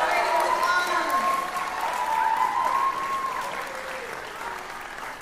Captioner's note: cheering